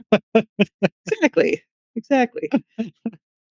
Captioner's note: laughing